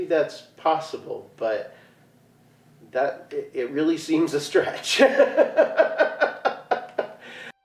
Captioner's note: laughing